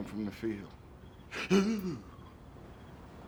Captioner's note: mockingly